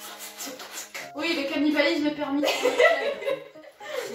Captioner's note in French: Rire